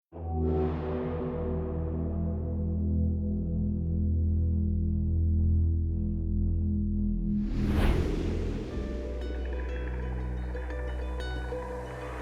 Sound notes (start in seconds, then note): 1.6 dramatic tone resonates; 9.0 soft guitar music